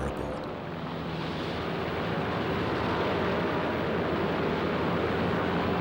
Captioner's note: plane engine roars